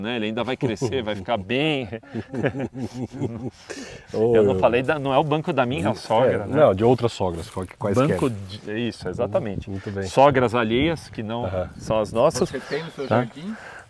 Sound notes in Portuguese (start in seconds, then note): 1.7 Risos